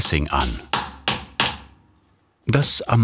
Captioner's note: repeated hammer blows